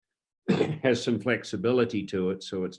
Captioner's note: coughs